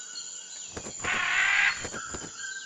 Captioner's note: squak